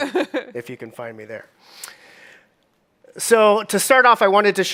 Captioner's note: chuckles